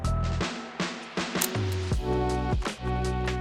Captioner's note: camera shutter